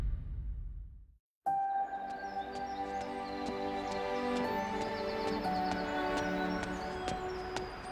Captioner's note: footsteps thudding; gentle music